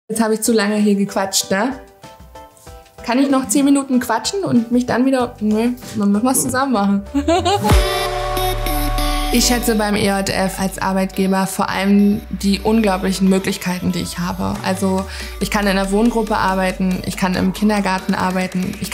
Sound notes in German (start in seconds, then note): 7.1 Lacht